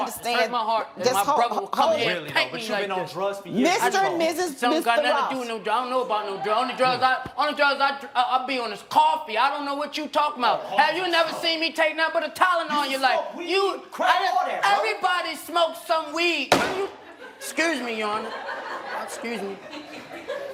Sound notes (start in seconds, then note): 16.4 gavel bangs; 16.7 audience laughs